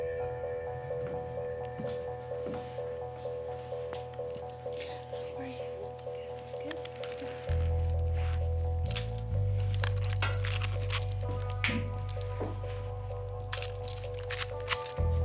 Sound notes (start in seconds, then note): 0.2 gentle upbeat music; 8.9 camera shutter clicking; 11.3 gentle upbeat music; 13.6 camera shutter clicking